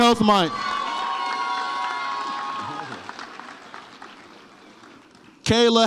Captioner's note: audience applauds and cheers